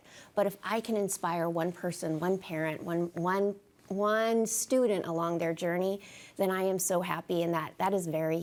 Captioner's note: none